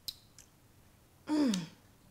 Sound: clears throat

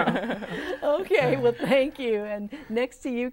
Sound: laughing

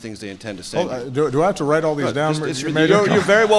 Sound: laughter

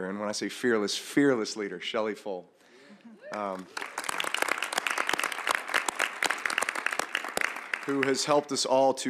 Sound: applause

